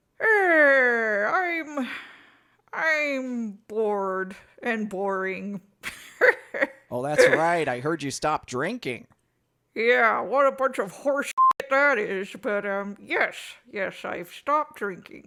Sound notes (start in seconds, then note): 7.2 cackles